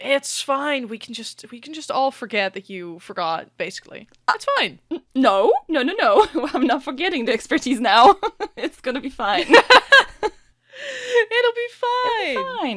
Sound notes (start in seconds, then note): 11.3 laughing